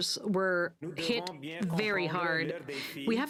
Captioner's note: speaking French